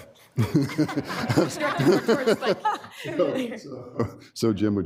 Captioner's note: laughter